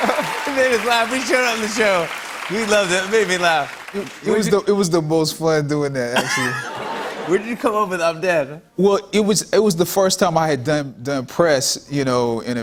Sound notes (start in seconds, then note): 0.0 laughter and applause; 6.1 laughter